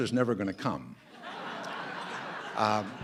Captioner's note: laughter